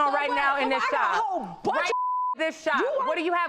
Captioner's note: beep